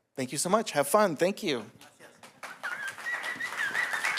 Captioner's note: applause